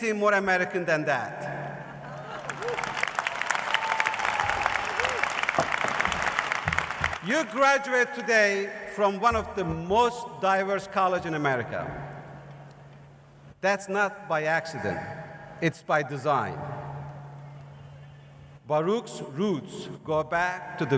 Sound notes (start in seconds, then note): 5.0 cheers and applause